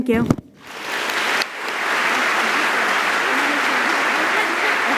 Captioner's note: applause